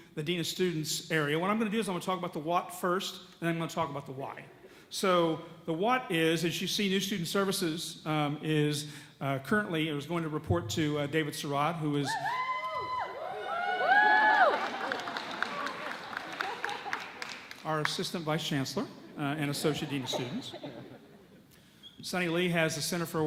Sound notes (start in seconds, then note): 15.3 audience cheers